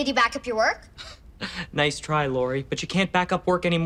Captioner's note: laughs